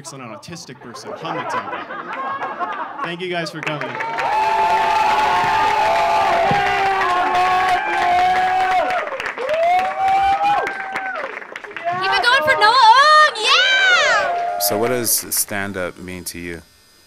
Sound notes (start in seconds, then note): 0.0 audience laughing; 3.9 audience cheering; 3.9 audience clapping